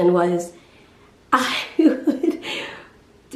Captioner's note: chuckling